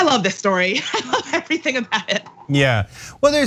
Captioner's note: laugh